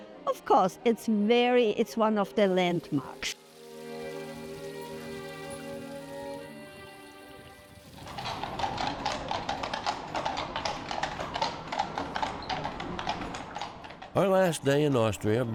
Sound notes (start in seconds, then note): 4.2 fountain water rushing; 7.8 horseshoes clattering